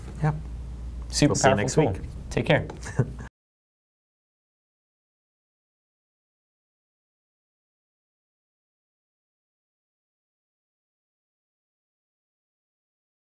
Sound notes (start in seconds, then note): 2.8 chuckles